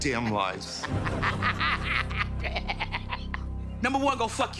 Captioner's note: laughing